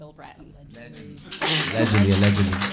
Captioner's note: audience applauding